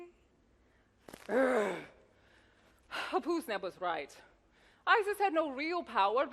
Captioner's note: grumbles